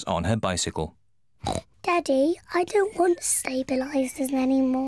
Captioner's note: snorts